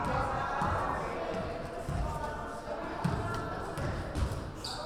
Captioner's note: crowd chattering